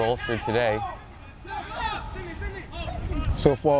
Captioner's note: players shouting